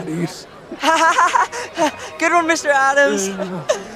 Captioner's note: laughing